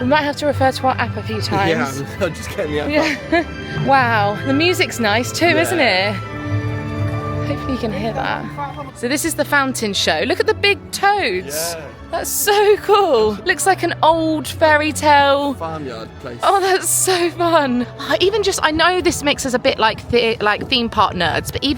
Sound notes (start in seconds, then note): 2.8 chuckling; 6.8 enchanting music continues